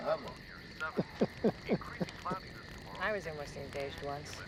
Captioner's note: chuckles